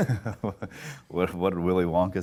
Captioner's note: laughs